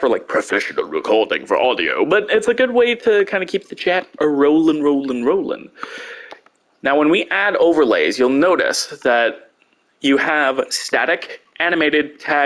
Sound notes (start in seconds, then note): 0.2 dramatic voice; 2.2 normal voice